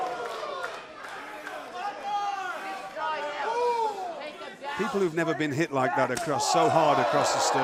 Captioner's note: crowd chatter